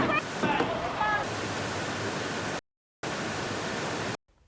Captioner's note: TV squelching